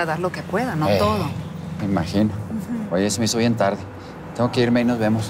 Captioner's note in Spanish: Ruido del vehículo